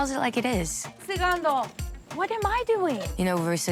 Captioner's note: speaking Spanish